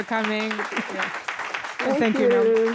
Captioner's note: applause